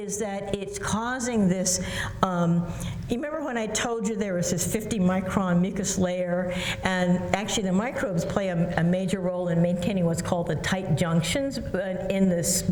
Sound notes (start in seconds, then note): none